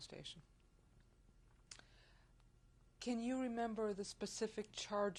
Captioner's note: pauses for 3 seconds